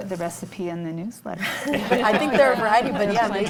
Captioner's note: panel laughs